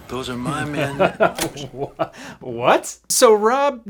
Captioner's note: laughs